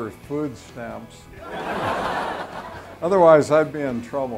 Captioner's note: laughter